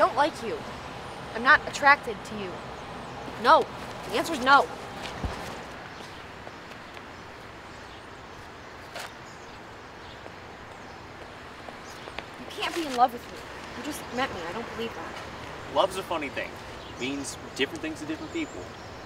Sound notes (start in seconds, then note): 11.6 footsteps